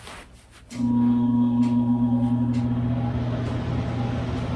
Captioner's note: sound of AC Turning On